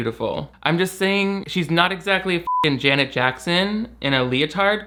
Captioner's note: beep